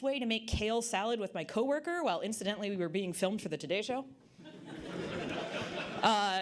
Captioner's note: audience Laughter